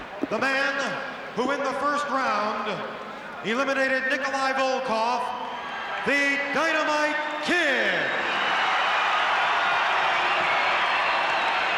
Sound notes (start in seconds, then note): 7.8 crowd cheers